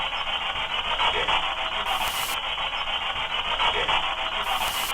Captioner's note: faint Voice